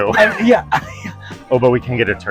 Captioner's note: laughing